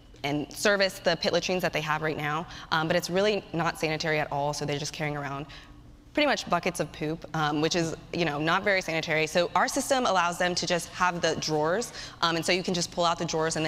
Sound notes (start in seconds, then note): none